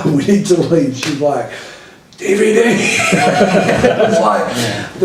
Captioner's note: laughter